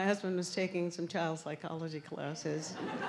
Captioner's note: laughter